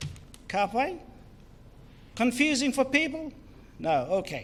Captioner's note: foreign Language